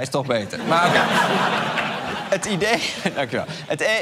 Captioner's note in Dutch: gelach